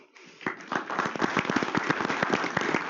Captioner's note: applause